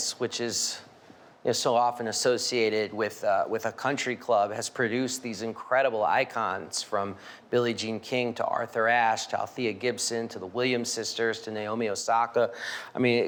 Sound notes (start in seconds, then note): none